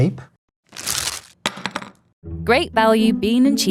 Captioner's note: wrapper ripping; burrito thumping